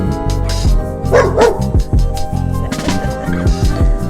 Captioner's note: dog barking; laughs